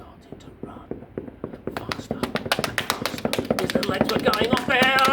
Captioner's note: running sounds getting faster